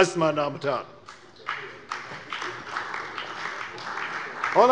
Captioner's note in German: Beifall bei der CDU und dem BÜNDNIS 90/DIE GRÜNEN